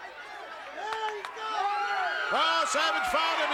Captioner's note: crowd cheers